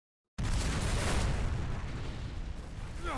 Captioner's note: explosion